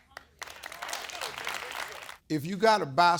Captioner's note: audience clapping